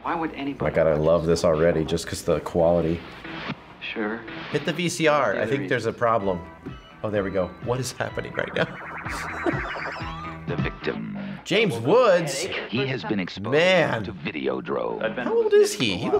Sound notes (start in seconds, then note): 9.1 laughs; 12.7 voice-over